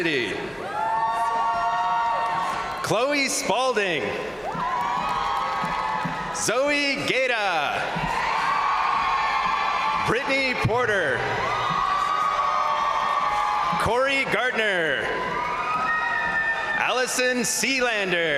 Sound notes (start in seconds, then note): 0.2 crowd cheering; 0.7 crowd applauding; 4.3 crowd cheering; 4.4 crowd applauding; 7.7 crowd cheering; 10.8 crowd applauding; 11.3 crowd cheering; 14.8 crowd applauding; 14.8 crowd cheering